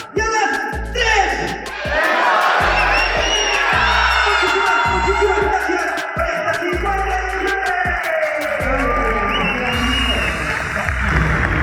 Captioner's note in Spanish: grito